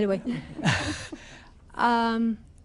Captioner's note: laughter